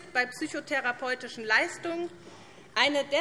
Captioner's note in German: none